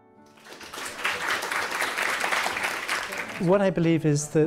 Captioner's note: audience applauding